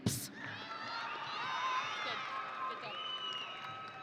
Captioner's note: audience cheering